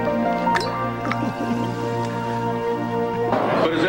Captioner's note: laughs